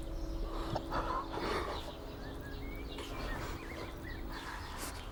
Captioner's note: Ura and father gasp